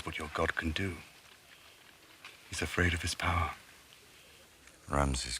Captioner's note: none